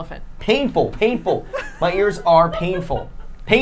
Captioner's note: laughing